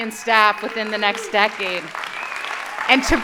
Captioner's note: audience applauding